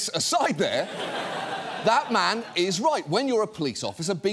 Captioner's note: studio audience laughs